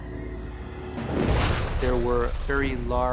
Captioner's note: thunder rumbling